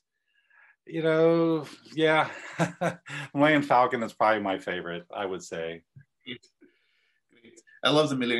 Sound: laugh

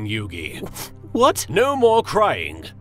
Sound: sNiFf

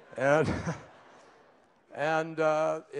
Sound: laughter

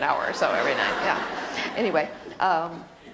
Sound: audience laughter

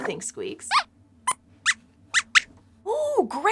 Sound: squeaks squeaks

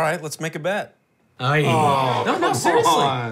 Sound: everyone groans

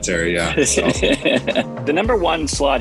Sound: laughter

